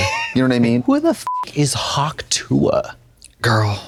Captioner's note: beep